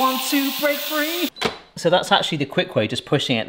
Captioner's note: lid clunks